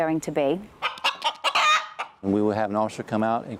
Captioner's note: rooster clucking